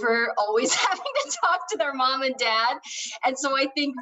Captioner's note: laughing